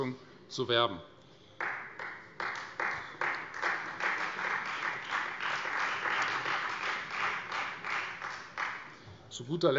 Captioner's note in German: Beifall Freie Demokraten